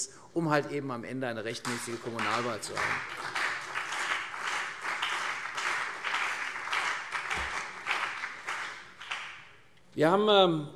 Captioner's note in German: Beifall CDU und BÜNDNIS 90/DIE GRÜNEN